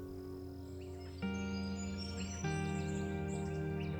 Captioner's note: birds calling